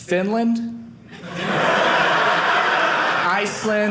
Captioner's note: audience laughing